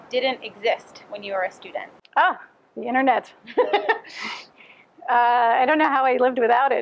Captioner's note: laughter